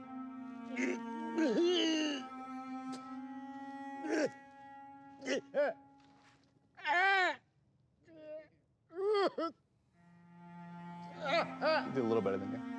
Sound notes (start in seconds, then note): 0.3 groans; 5.2 groans and cries